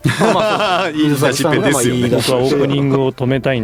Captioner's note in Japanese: 笑い